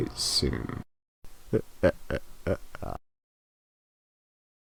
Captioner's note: chuckles evilly